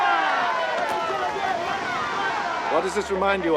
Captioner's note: cheering